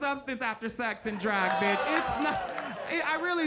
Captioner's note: audience groans